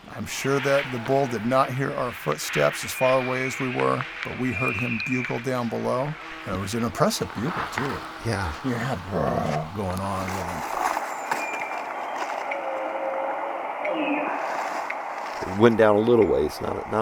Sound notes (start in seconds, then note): 2.2 bull Elk Bugle; 6.4 bull Elk Bugle; 10.9 bull Elk Bugle